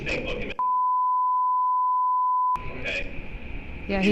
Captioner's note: beeping